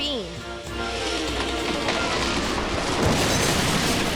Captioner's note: quirky music; chainsaw whirring; wall crashes